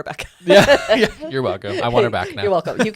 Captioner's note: both laughing